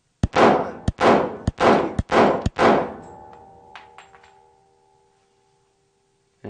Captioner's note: gunshot